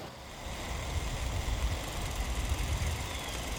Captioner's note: FIlm cranking returns